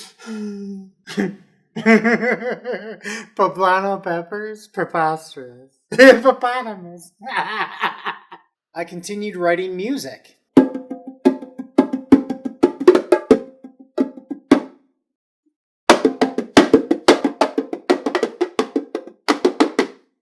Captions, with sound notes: (giggles) Poblano peppers? Preposterous. Hippopotamus! (laughs) I continued writing music. (drumming) (drumming)